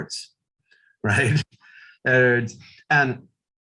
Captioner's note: chuckles